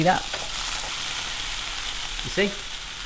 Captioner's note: chicken sizzling